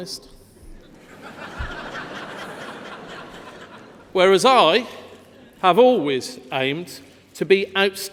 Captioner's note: laughter